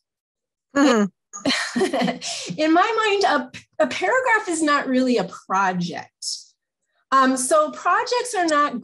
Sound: laughs

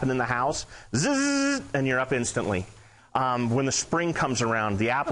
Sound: in higher pitch

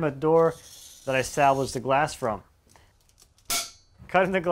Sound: glass cracks

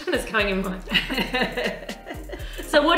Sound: chuckles; laughing

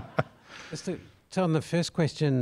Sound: laugh

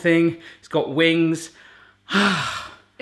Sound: sighs

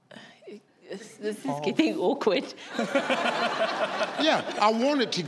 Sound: audience laugh

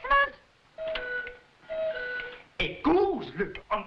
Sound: cuckoo clock chiming

